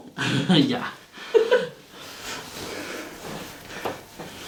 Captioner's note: laughs